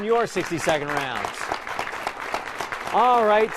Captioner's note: applause